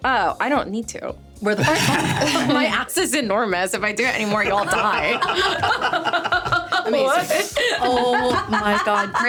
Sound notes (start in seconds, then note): 1.6 laughing; 4.2 everyone laughing; 7.5 laughing